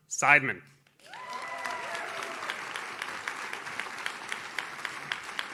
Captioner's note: audience cheers